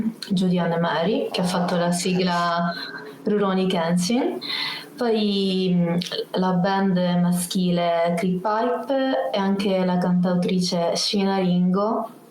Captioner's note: speaks Italian; speaks Italian